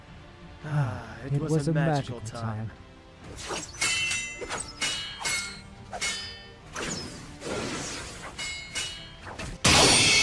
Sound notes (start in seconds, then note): 0.5 happy sigh; 3.3 steel clash